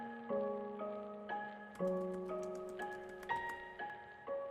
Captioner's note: typing